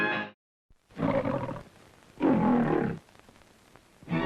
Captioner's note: lion roars; lively music